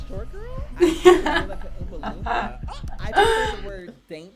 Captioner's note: laughs